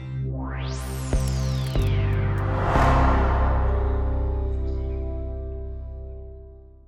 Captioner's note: logo whooshing